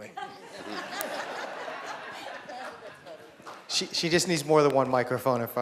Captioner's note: laughter